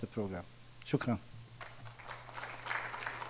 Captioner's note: speaking in foreign language; audience applauding